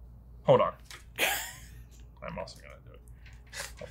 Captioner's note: laughs